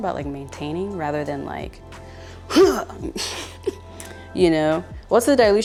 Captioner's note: laughs